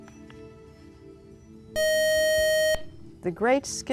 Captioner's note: buzzer